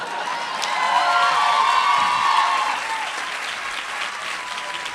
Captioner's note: applause